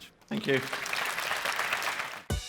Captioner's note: applause